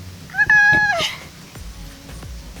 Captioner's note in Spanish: gritos de miedo